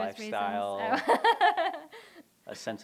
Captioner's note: laughter